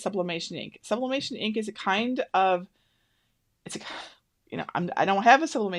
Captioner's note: sighs